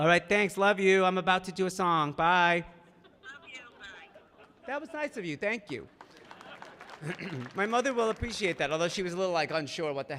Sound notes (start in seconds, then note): 3.0 audience laughing; 5.6 audience clapping